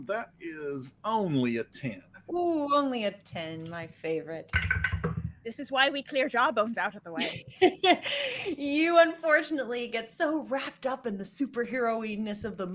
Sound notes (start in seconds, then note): 4.4 dice rattling; 7.1 laughing